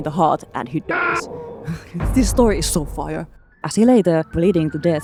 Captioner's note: dramatically reading the pasta